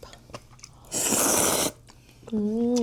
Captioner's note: slurp